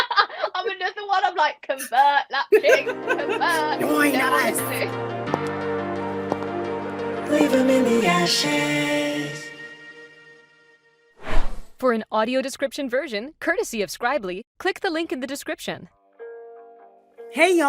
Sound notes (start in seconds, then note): 2.5 laughs; 6.3 clicking heels